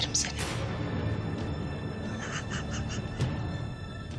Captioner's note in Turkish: Kıkırdayarak güler